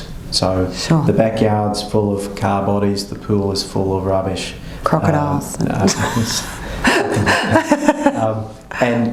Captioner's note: laughter